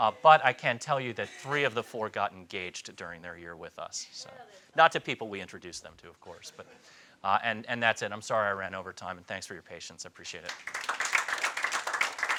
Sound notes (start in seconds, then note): 10.4 audience applauds